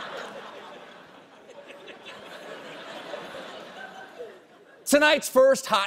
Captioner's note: laughter